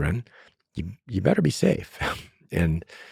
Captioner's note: laughs